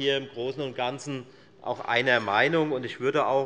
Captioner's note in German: none